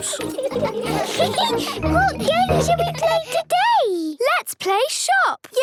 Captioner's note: giggles